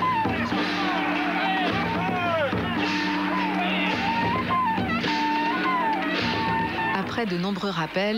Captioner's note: applause